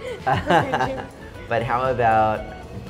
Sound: laughing

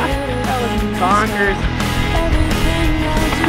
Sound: rider laughs

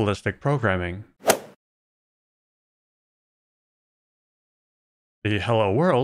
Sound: golf ball hit sound

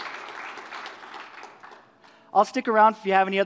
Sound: applause

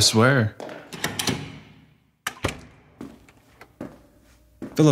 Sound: the stairwell door opens. footsteps

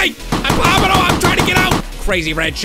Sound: shotgun

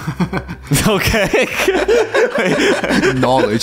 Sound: laughs

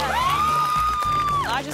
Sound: clapping

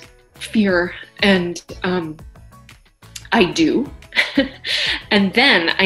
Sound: chuckles

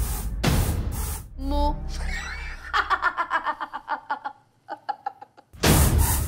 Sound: laughs

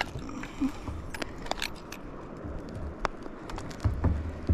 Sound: metal clanking on scale

